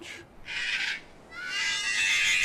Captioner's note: bird Squawking